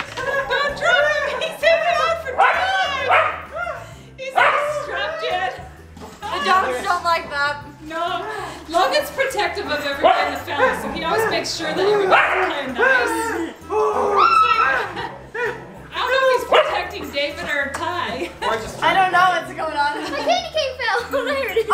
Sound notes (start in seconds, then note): 4.3 dog barking